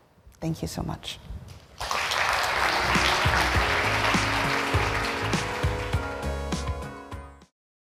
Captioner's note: applause